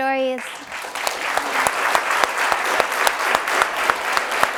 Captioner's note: audience applauds